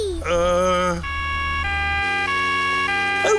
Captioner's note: siren wailing